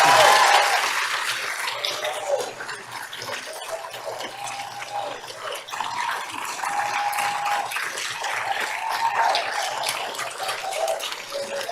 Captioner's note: applause